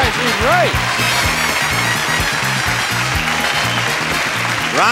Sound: audience cheering; exciting music

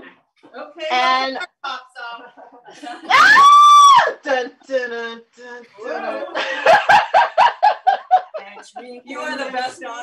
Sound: laughter, playful scream

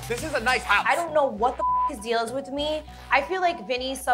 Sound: beep

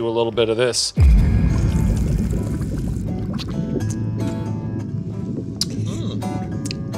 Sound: intense whooshing; gentle guitar music

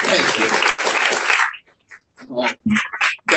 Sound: applause

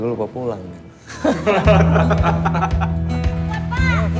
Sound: laughter

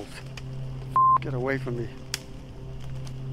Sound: beep

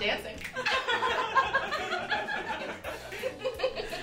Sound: laughing

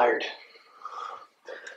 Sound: takes deep breath in

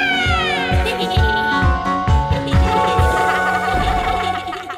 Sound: laughter

